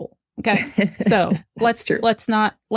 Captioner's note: laughs